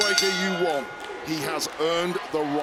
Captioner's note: bell rings